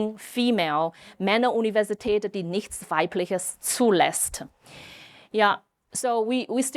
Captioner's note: speaking German